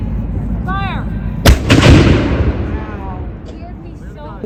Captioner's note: cannon